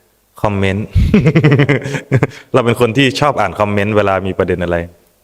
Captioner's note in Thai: เสียงหัวเราะ